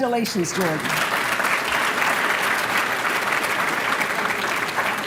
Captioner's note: applause